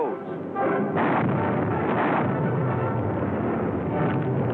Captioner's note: explosions